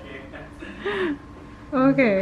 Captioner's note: laughing